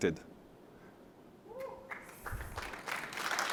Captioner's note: applause